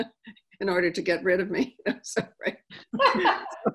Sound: laughing

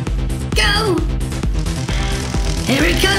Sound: crackling electricity

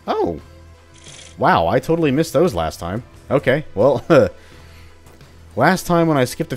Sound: chuckles

